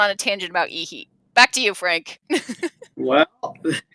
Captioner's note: laughs